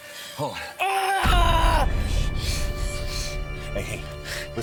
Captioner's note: Grant yells